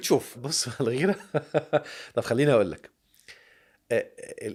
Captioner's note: laughs!